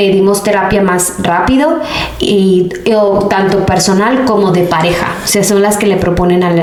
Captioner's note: sighs